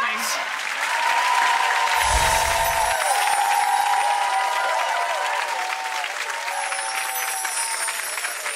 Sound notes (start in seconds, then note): 1.0 audience cheers; 1.9 twinkling sound effect